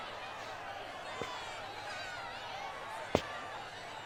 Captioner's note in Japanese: 大歓声